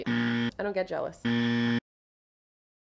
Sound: buzz!!!

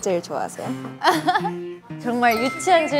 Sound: laughing

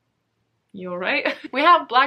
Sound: laughs

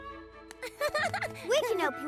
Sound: Pinkfong chuckles

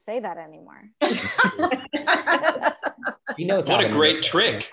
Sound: laughs

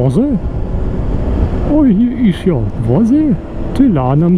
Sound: still hessian dialect

